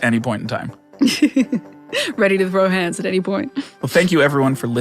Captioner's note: laughs